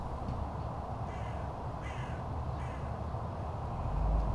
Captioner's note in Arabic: صراخ الطيور